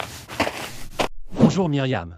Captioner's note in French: FX - Footsteps - On Multiple Dirt - Walk; FX - Whoosh - 03